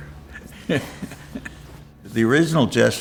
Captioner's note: chuckling